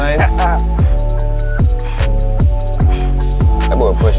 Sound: laughs; panting

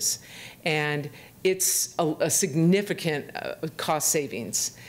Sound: none

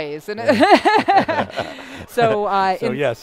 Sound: laughter

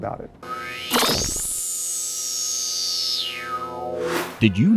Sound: sound Effects

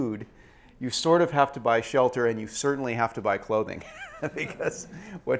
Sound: laugh

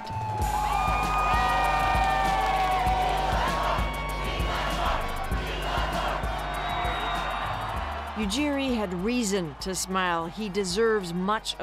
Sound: cheers and Applause

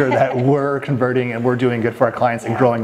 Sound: chuckling

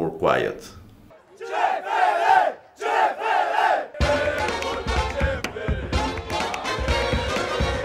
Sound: chants

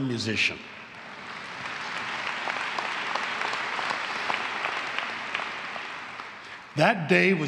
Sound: applause

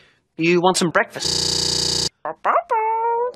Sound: stuttering

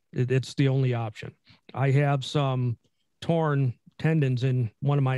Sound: none

